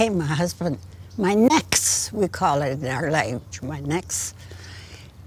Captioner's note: in Gitxsan